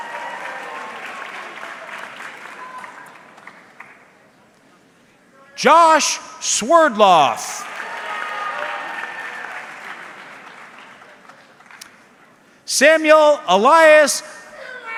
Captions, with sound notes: (audience clapping) Josh Swerdlow. (audience cheering) Samuel Elias Abitanta.